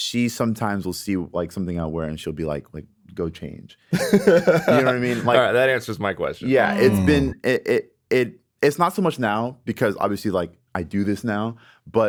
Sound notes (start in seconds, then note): 3.9 Justin laughs